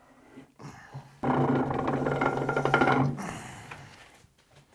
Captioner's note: metal scraping